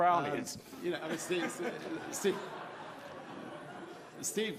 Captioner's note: laughing